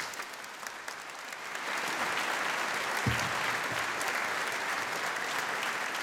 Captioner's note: applause